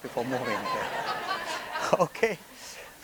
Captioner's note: attendees laughing